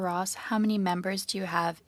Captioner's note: speaking French